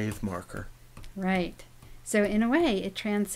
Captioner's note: voiceover